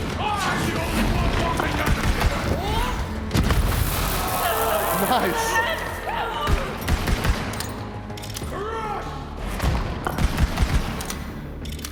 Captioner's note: laughter